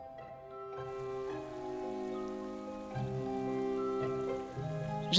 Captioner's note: gentle music; water splashing